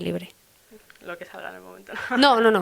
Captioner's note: laughs